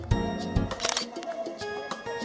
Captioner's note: camera snap